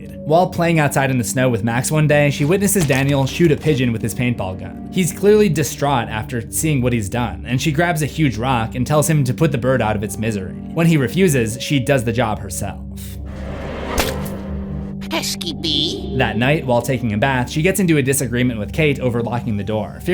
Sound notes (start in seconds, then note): 14.7 splat